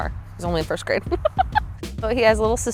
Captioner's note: laughs